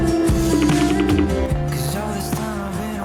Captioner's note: phone ringing